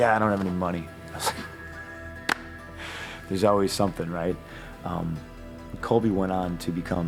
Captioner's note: laugh